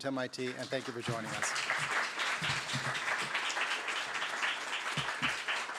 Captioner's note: applause